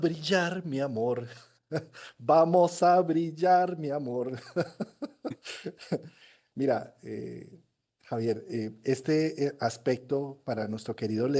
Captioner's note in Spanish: risas